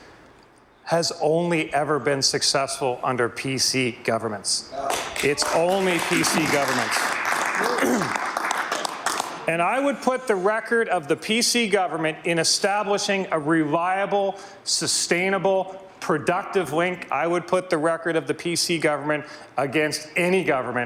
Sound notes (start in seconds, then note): 10.8 some Applause